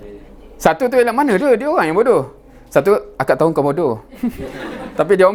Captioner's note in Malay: ketawa